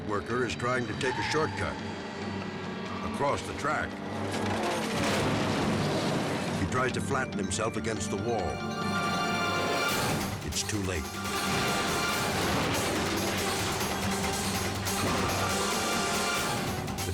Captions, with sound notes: That worker is trying to take a shortcut across the track. (car thuds) He tries to flatten himself against the wall. (dramatic music) It's too late. (dramatic music continues)